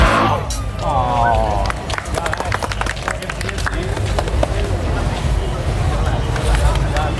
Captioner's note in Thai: ปรบมือ